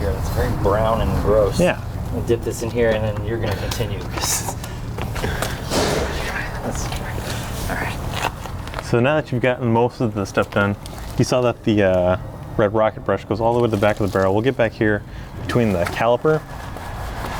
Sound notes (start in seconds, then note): 5.9 mutters